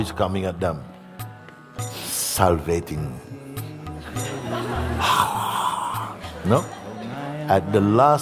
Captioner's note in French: rires